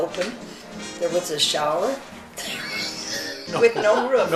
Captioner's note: laughing